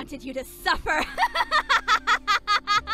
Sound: laughs maniacally

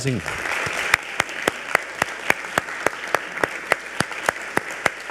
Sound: audience applauds

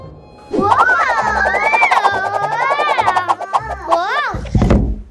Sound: children whooshing

